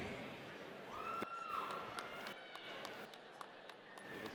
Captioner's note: audience cheers